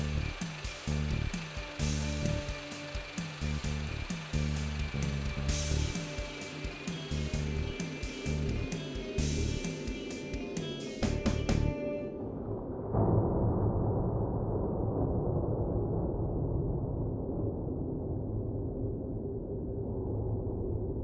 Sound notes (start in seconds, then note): 0.1 upbeat music continues; 10.6 engine whirring